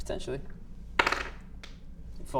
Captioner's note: dice roll